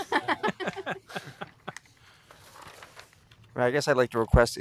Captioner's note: laughter